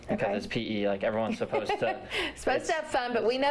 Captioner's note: laughter